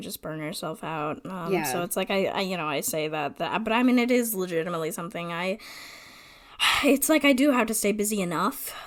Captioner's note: sigh